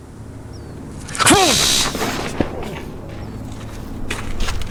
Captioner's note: taser buzzing